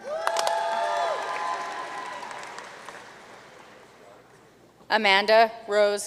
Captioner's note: audience cheering and applauding